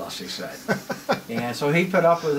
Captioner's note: laughs loudly